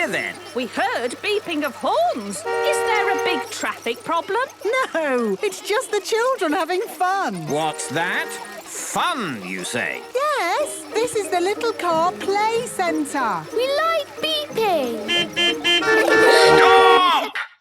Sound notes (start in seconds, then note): 14.6 horns beeping